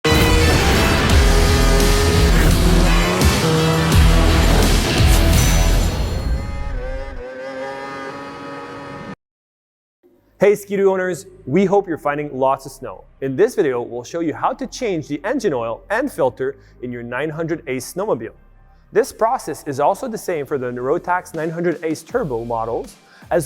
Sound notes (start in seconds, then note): 0.0 upbeat rock music; 3.1 jet ski engine revving